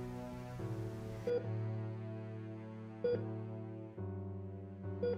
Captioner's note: heart monitor beeping